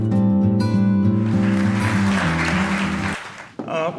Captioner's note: applause